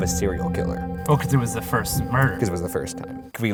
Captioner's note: voiceover